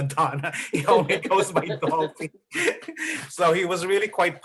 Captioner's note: laughter